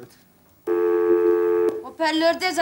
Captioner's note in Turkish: Telefon çalar